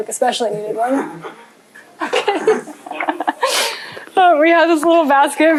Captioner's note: laughter